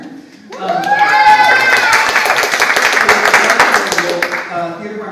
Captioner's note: audience applauds